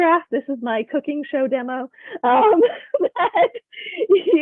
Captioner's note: laughs